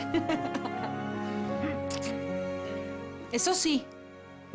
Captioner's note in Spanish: Risas